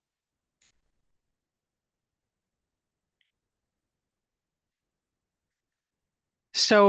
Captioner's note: silence